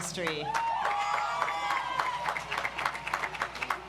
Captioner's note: audience applauds